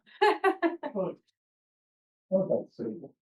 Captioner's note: laughter